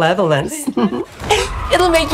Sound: Dr. Elvira giggles

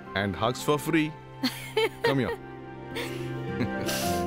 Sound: both giggles

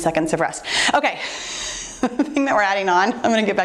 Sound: laughs

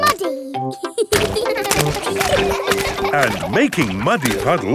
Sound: children laughing

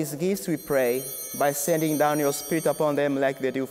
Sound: bell ringing

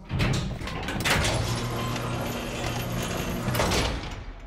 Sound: clattering

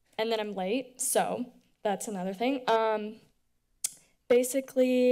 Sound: dental click

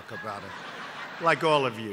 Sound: laughter

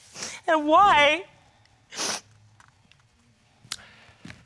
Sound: sniffs

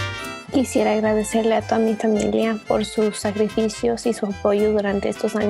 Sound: speaks in foreign language

